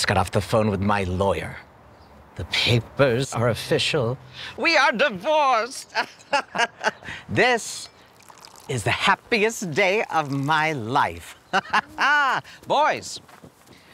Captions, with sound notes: I just got off the phone with my lawyer. The papers are official. We are divorced!! *gleeful laugh* This... is the happiest day of my life. Ha, ha ha! Boys!